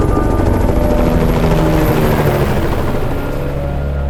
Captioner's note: explosion